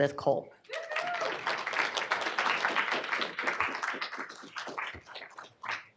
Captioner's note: audience clapping and cheering